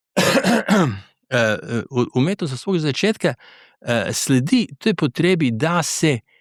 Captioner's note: coughs; clears throat